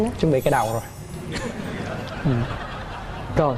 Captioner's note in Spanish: risas